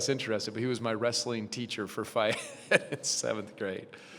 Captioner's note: chuckles